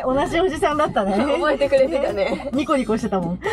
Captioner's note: laughs